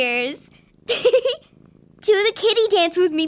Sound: giggles

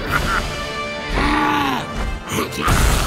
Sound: roaring

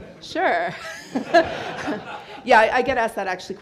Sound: audience laughs

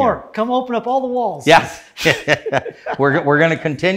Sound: laughs

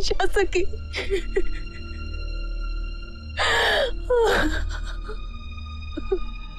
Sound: crying

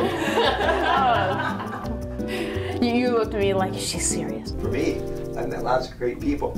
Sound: both laugh

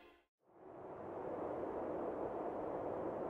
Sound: wind howling

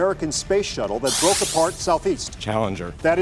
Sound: buzzing

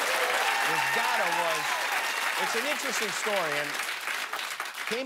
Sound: laughter and applause

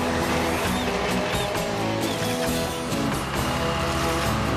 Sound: machine Engines Running

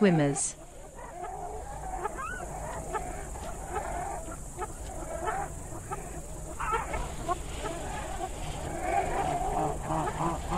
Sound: jungle sounds

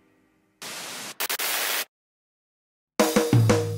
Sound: sign sizzling; lively rock music

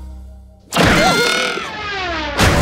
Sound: Cuphead screams

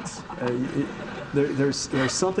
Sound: audience laughing

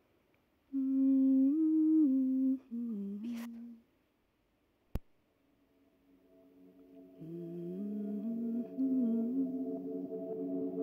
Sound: mam hums gently

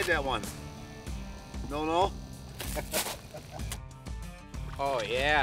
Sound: laughing

